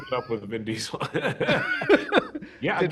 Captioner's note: laughter